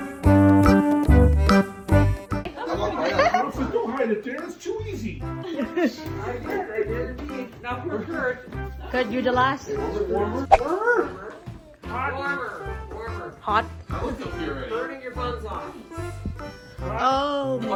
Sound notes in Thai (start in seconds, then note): 2.5 หัวเราะ; 5.4 หัวเราะ